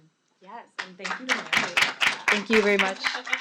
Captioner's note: clapping